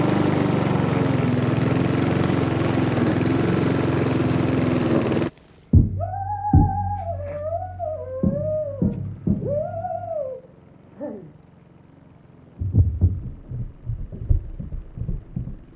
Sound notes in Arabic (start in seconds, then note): 4.9 تغني، تقرع الطبول في الخلفية; 11.4 طنين محرك جزازة العشب; 12.6 يتوقف الطبول، خطى